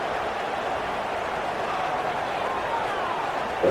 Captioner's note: crowd Noises